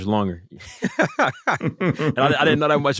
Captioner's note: laughter